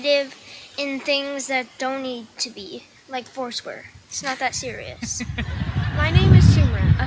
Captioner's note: audience applauding